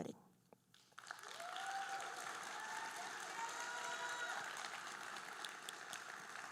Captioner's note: audience cheering and applauding